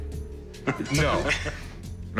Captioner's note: laughter